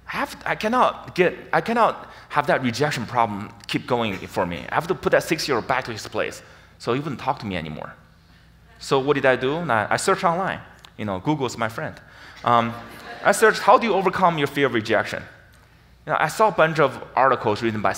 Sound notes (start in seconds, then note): 12.4 audience laughs